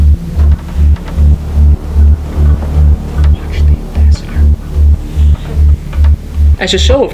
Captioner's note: whispering